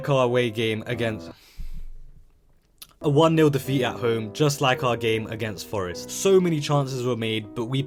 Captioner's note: sigh